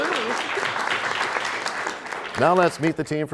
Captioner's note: applause